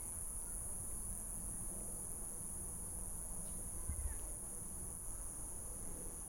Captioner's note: insects chirping over distant muffled chatter